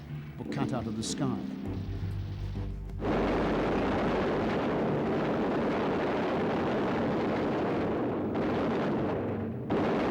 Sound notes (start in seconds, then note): 3.0 machine gun shots, explosions